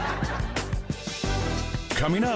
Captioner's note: audience laughing